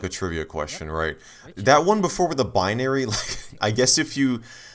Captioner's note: chuckle